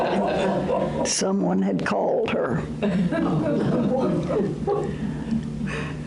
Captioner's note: audience laughter